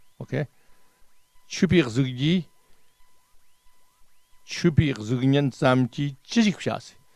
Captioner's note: tibetan